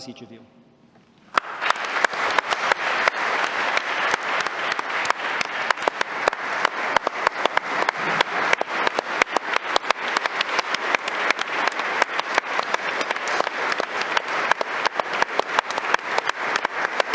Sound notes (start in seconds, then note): 5.9 applause